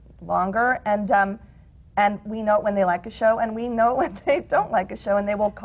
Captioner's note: laughs